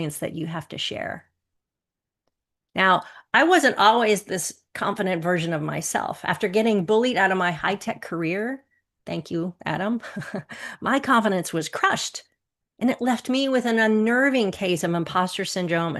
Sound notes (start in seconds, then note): 10.1 chuckles